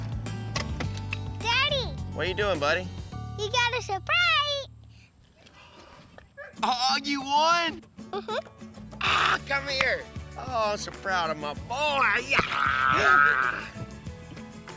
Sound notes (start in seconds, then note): 9.6 claps